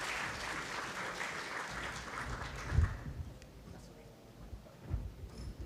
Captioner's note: applause